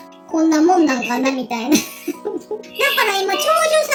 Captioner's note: laughs